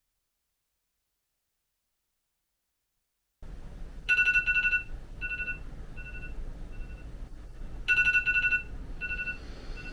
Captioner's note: phone ringing